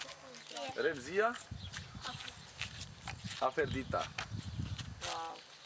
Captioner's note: speaks in foreign language